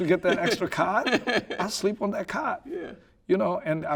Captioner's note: laughing